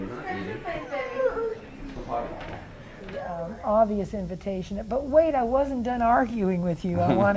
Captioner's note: laughter